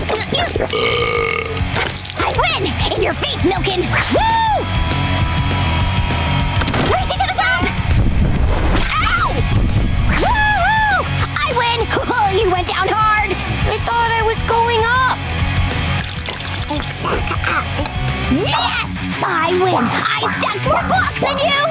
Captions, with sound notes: [belching] I win! In ya face, Milk-coln! WHOO! Race you to the top! Ow! WHOO-HOO! I win! Ho ho, you went down hard! I thought I was going up. [babbling] Yes! I win. I stacked more blocks than you.